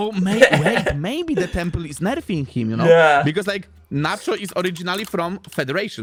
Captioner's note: laughter